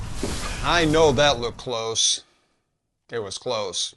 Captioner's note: small crash